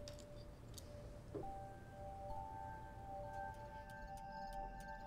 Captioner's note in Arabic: الموسيقى الهادئة; الصراصير النقيق